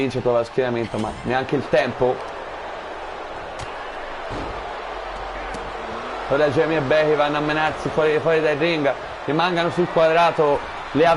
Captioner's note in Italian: Applauso